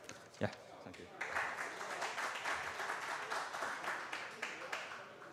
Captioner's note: applause